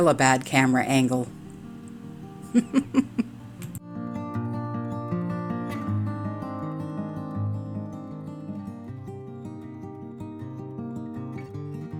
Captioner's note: laughing